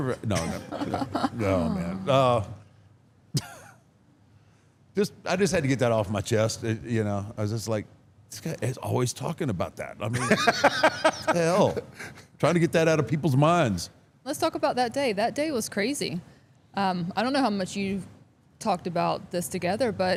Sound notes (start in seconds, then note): 0.4 chuckles; 10.1 Paul laughs